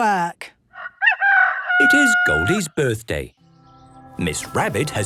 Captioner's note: rooster crowing